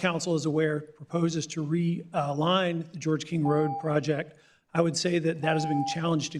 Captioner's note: beep